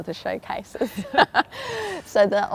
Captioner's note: laughs